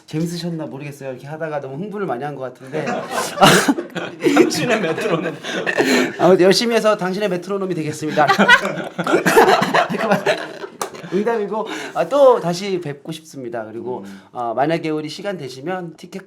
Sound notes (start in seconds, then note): 2.6 laughing